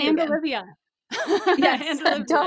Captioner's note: laughs